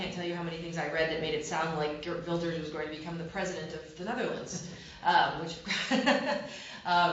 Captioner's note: laughter